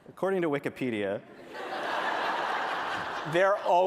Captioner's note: laughter